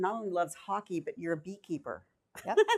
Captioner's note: laughs